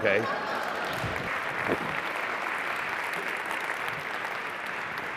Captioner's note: applause; laughter